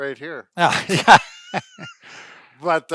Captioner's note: laughs